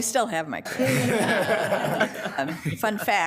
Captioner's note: attendees laughing